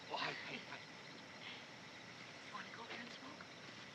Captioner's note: speaking Japanese